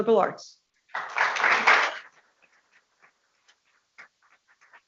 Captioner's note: people clapping